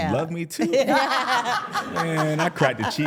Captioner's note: laughing